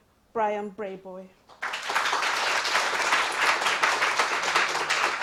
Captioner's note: applause